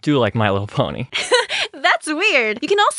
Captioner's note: extremely awkward laugh